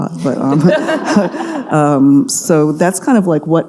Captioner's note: audience laughing